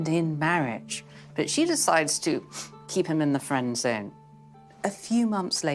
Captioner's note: sniff